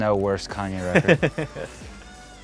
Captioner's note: laughter